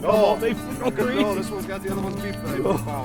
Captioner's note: voiceover